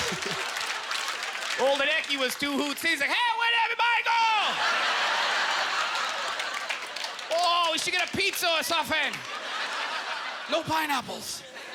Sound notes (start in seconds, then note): 4.5 audience laughter; 6.0 in Chinese accent